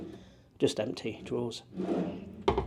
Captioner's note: drawer whirring